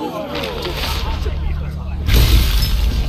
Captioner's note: thunder